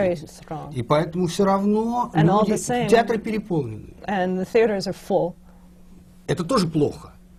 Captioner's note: foreign language not transcribed